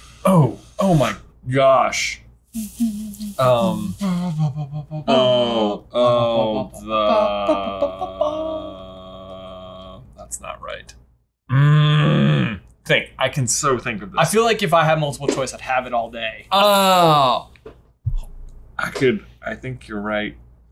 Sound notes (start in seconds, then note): 2.6 letting out breath slowly; 3.3 groaning; 16.5 groans